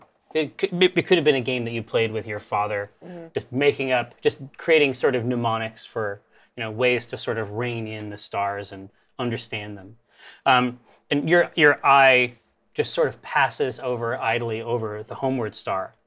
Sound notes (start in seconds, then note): none